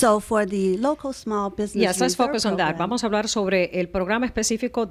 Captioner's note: Hablando ingl\s